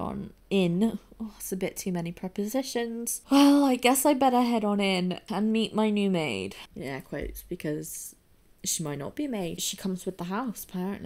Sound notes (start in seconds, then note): 2.6 sighing